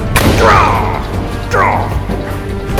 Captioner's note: shouts